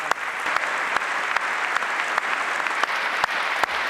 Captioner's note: applause